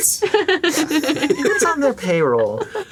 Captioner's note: laughing